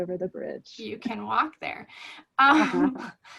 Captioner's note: laughing